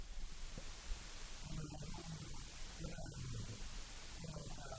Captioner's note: none